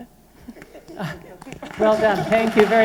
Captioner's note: applause